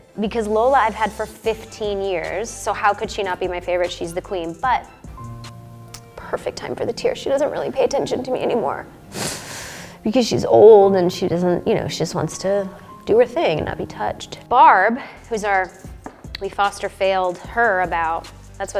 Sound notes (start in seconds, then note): 5.2 melancholic music; 9.0 sniffles